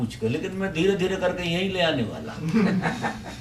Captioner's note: laughter again in the audience